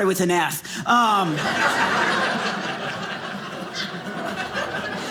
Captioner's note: audience laughing